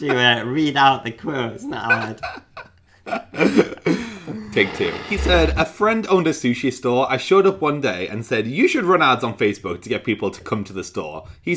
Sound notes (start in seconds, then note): 4.0 laughing